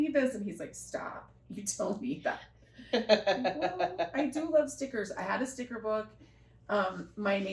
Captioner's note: laughter